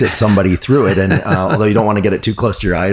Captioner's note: laughing